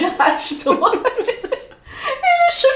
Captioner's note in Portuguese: risos